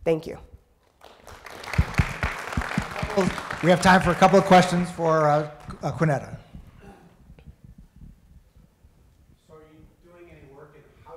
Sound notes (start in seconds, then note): 0.8 audience clapping